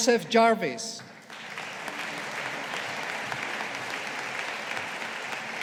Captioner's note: audience applauding